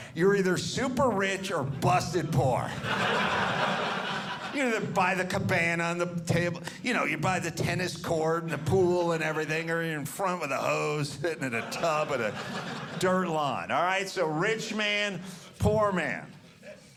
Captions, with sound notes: you're either super rich or busted poor, [audience laughing] Either by the cabana on the table, you know, you're by the tennis court, the pool and everything. Or you're in front of the hose, sitting in a tub with dirt lawn All right, so Rich man, Poor man.